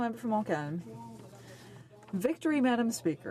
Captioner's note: speaking French